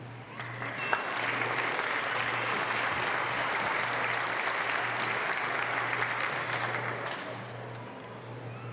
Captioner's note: applause